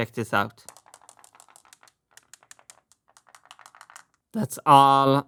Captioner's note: marble rolling